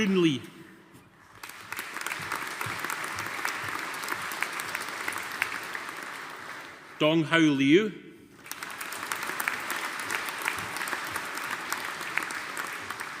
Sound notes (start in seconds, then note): 8.3 audience applauding